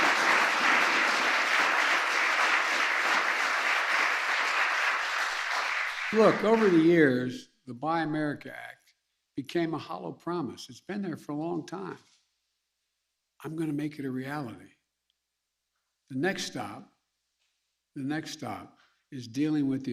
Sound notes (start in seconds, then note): 3.5 applause